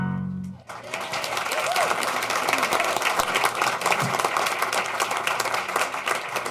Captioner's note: applause